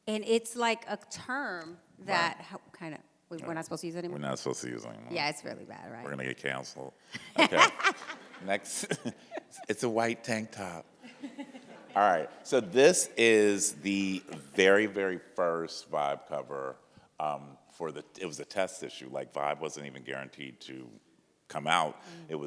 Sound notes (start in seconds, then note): 7.2 laughs; 7.2 laughing; 11.0 audience laughs